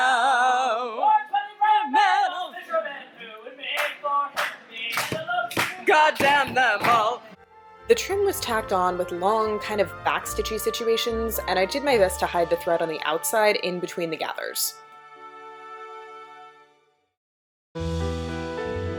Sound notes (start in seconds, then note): 4.8 clapping and banging tables